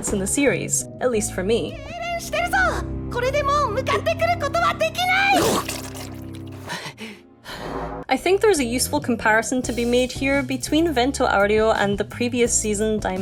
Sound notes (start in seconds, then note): 6.6 sob